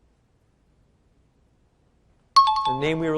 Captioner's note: out of time alarm